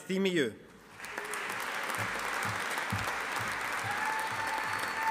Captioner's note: audience applauding